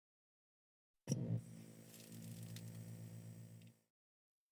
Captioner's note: static